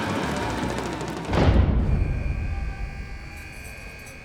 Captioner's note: keys jangling; buzzing